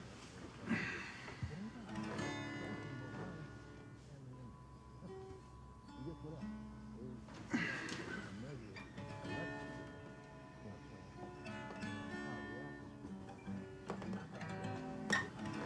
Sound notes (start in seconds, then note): 0.6 Isaac sighs; 2.4 slow gentle guitar music; 7.4 Isaac groans; 11.9 slow gentle guitar music